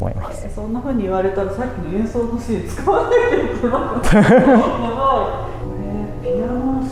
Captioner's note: laughs